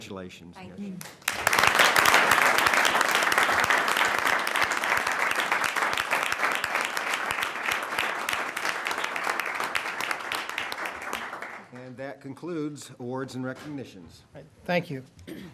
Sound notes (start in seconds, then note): 11.4 applause